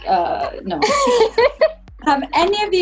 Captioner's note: laughs